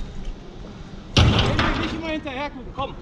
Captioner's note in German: kraaach